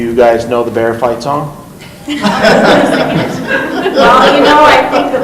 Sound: laughing

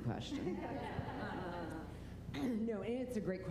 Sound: laughter

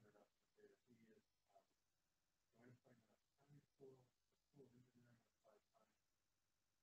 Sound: speaks away from microphone

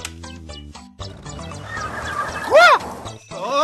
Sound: squealing tires

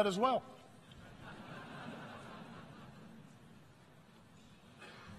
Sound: audience laughs

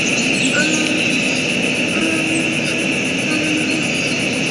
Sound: humming

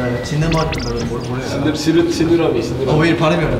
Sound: suddenly stuttering

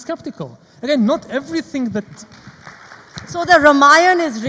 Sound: audience applauds

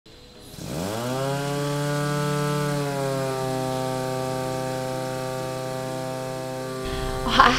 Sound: pump buzzing

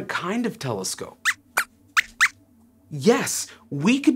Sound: squeaks squeaks

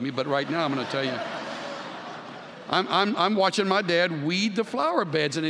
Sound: laughter

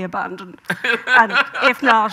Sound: Graham laughing

